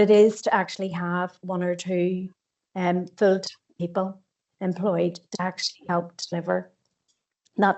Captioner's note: audio distorts 46.39